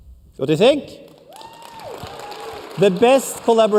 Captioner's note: cheers and applause